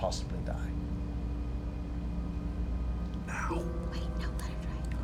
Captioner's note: whispered